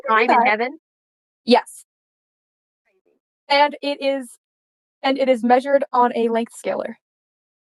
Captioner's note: stutters